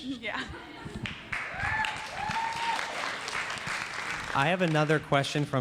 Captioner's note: audience applauds